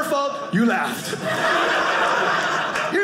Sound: audience laughing

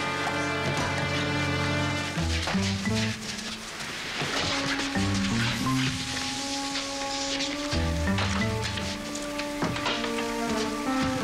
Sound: thumps

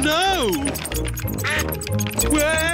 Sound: quacking

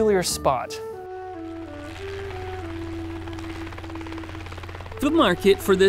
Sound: soft music; plane engine roaring

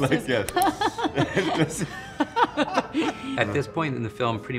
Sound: Kate and Craig laughing

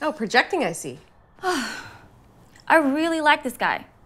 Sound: sighs

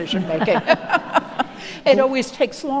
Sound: audience laughing

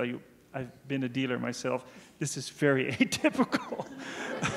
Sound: laughs; audience laughing

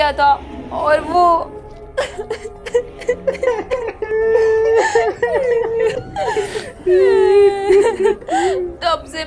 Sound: crying

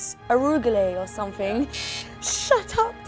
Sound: bell buzzing

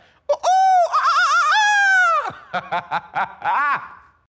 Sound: imitating bird; laughing

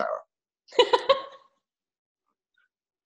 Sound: laughs

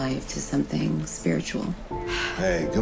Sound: sigh

